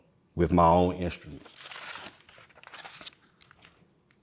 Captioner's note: pages rustling